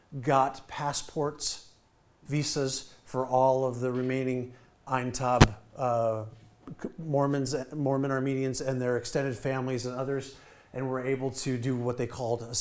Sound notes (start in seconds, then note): none